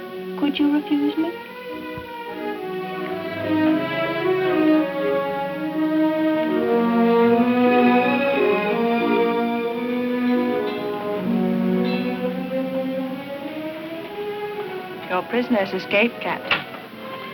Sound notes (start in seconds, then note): 2.1 romantic music; 10.1 bell clanging; 10.1 light orchestral music